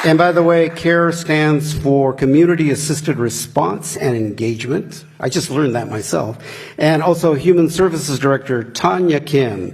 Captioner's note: applause; applause